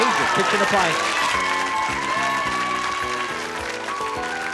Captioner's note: audience applause